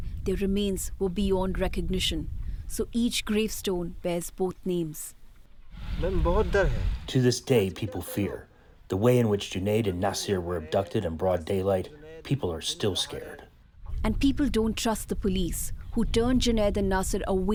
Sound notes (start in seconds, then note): 7.7 through translator